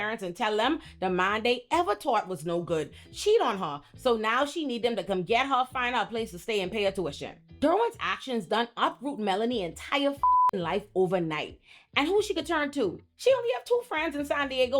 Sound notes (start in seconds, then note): 10.2 beep